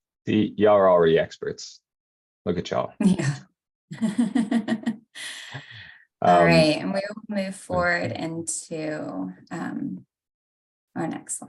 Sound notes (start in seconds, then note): 5.5 laughs